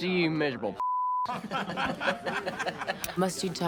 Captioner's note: laughing